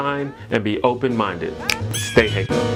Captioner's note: snaps fingers